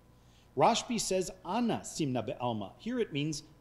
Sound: speaking foreign language

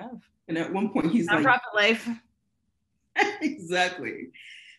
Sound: laughing

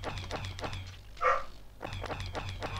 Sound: woof

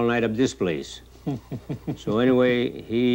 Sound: man laughs

